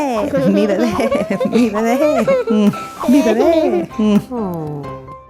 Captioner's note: laughs; laugh; kiss